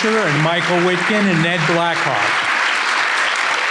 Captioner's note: applause continues